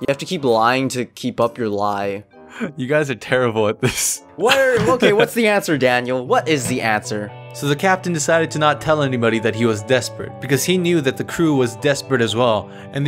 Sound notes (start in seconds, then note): 4.5 giggles